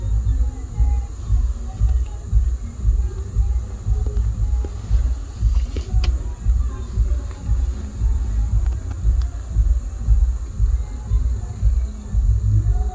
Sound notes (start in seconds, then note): 1.8 bass & people shouting